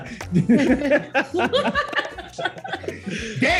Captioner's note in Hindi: हँसते हुए